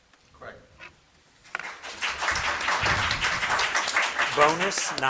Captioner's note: audience clapping